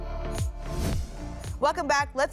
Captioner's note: whoosh